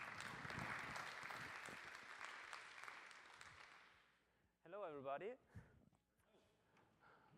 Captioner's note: applause